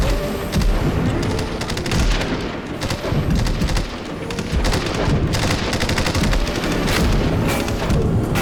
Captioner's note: gunshot